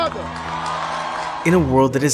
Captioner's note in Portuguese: multidão aplaudindo